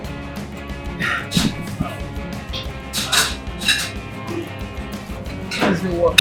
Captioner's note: exhales